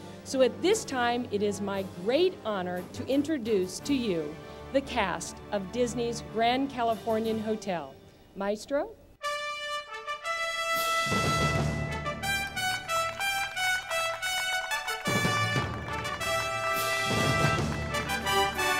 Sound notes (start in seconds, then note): 9.5 orchestral music; 12.0 audience applauds